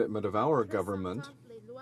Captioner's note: speaking French